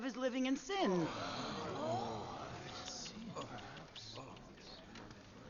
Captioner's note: crowd murmurs